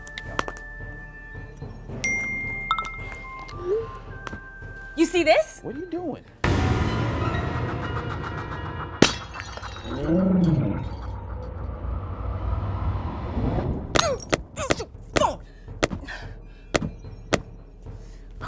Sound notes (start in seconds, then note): 0.3 more text sounds; 9.0 crashing sound; 13.5 angry grunting noises